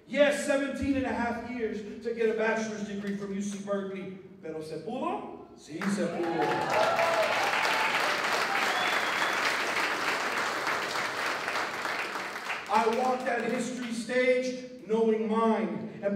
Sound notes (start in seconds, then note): 4.4 non-english speech; 5.8 applause